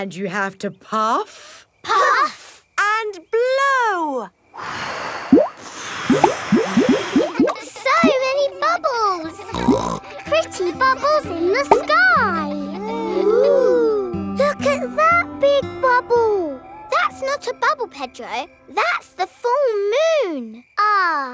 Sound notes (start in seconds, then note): 4.6 all blowing; 9.3 snorts